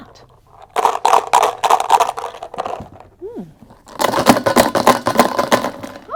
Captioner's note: rattling sounds can be heard